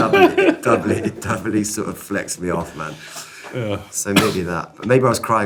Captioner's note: laughing